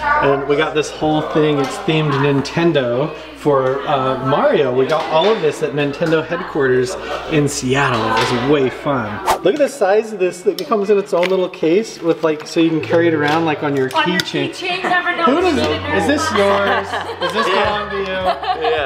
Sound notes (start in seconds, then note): 9.2 swooshing; 17.2 group laughing